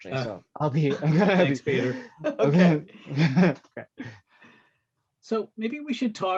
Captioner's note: laughter drowns out speaker